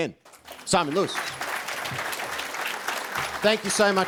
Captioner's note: audience applauding